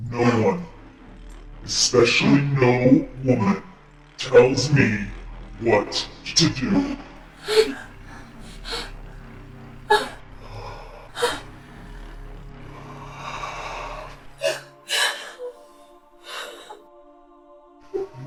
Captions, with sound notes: - No one, especially no woman, tells me what to do. [Kathryn pants] [Chemock breathes deeply] [Jen breathes heavily]